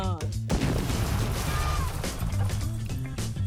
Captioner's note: explosive exploding; upbeat music